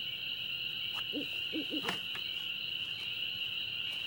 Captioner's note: owl hooting